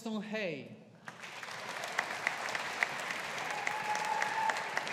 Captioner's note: audience applauding